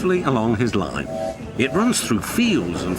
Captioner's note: whistle